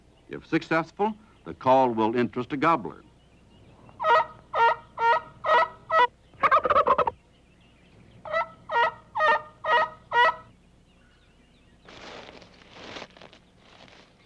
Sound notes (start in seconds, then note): 4.3 turkey call; 6.3 gobbling; 8.2 turkey call